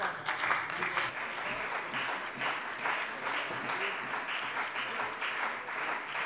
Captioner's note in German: Beifall bei der CDU und dem BÜNDNIS 90/DIE GRÜNEN